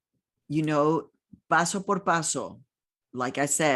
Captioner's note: speaking in foreign language